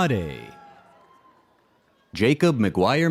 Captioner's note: audience cheers